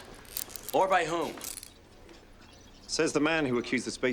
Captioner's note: handcuffs click